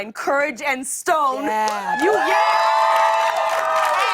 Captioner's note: cheers and applause